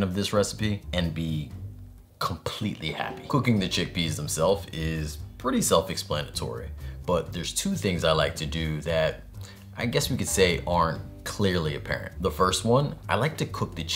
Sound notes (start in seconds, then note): none